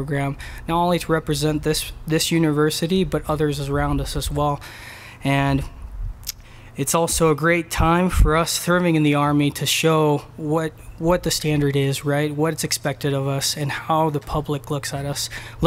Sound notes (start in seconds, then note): none